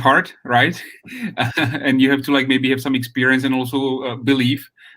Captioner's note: chuckles